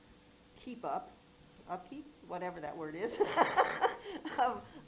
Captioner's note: laughs